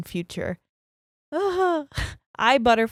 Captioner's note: groaning